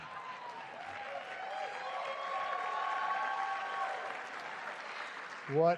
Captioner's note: cheering